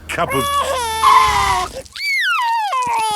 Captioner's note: tires screeching; crying